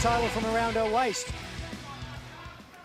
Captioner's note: bell ringing